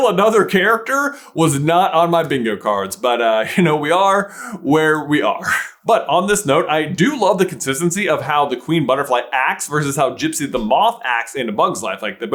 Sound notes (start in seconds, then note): 5.5 laughs